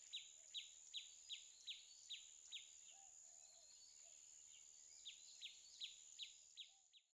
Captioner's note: bird chirping